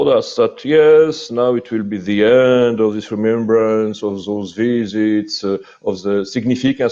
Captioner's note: mocking self-assured tone